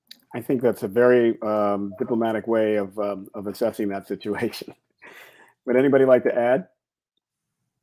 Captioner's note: laughs